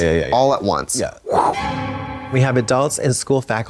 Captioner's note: Trixie whooshes